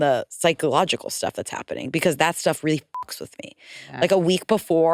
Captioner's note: beep